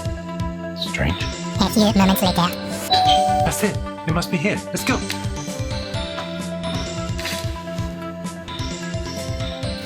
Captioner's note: doorbell